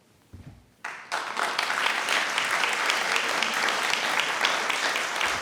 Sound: audience applauds

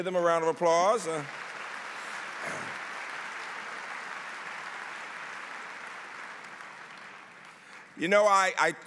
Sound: applause

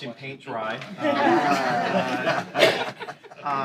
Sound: laughter

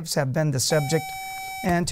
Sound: buzzer

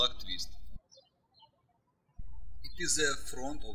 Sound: birds chirping

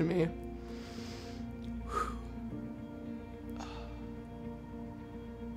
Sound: inhales, exhales

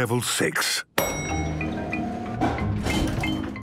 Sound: elevator dings

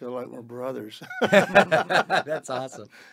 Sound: all laughing

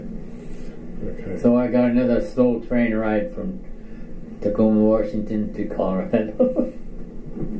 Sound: chuckles

